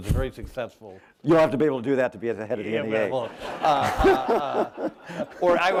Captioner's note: laughter